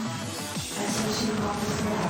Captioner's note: explosion